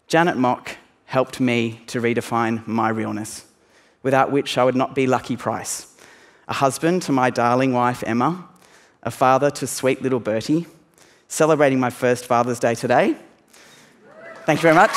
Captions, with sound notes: Janet Mock helped me to redefine my realness without which I would not be Lucky Price, a husband to my darling wife, Emma, a father to sweet little Birdie, celebrating my first Father's Day today [cheering] -- thank you very much.